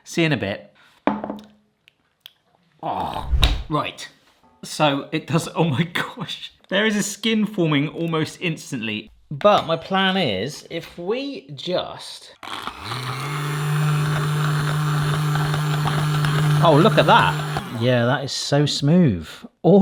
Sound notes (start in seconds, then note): 2.8 groans